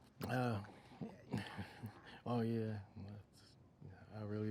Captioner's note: chuckling